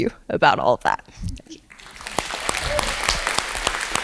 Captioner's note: applause